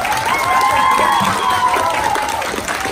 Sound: applause

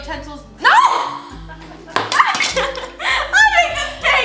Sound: chuckles; gasps

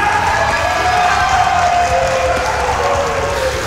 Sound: clapping; yelling; crowd cheers wildly

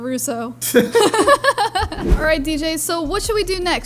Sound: both laugh

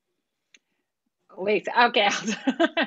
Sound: laughter

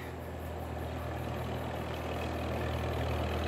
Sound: tractor approaching

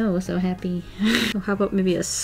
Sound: laughs

